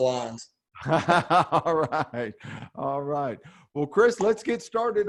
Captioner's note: laughing